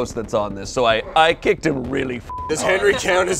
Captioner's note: beep